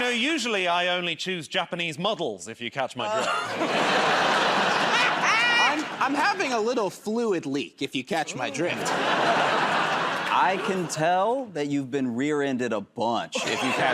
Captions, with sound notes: -You know, usually I only choose Japanese models, if you catch my drift. [ Laughter ] -I'm having a little fluid leak, if you catch my drift. -I can tell that you've been rear-ended a bunch,